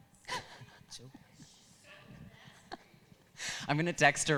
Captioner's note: gently laughing